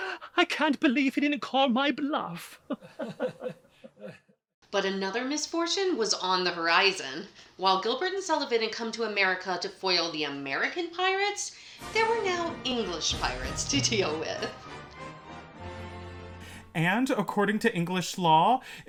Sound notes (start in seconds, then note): 2.7 weak laughter